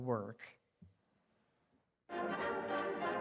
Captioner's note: audience applauding